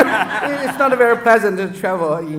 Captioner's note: audience laughs